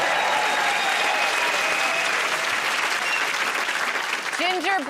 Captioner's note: cheers and applause